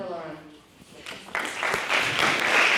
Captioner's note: applause